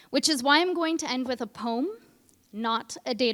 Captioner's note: none